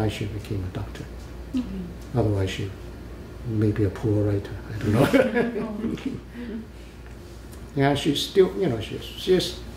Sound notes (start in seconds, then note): 4.9 laughs